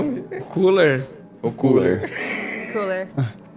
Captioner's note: laugh